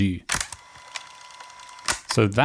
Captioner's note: fast forward whirring